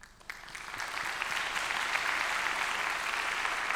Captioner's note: audience applauds